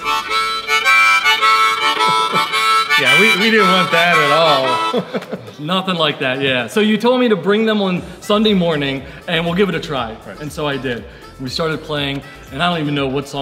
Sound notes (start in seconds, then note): 4.3 chuckling